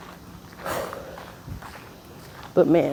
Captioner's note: another deep breath